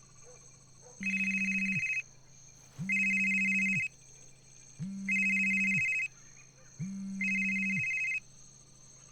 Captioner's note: phone ringing